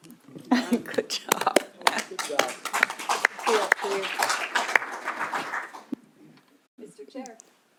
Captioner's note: applause